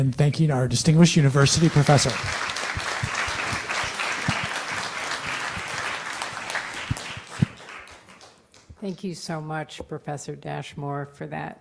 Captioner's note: applause